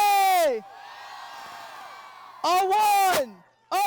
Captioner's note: audience cheering